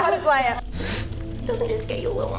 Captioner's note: sniff